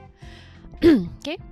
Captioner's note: ahem